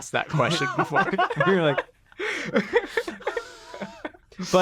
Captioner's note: group laughing